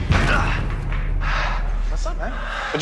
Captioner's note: Задъхване